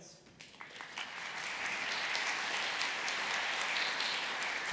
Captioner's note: applause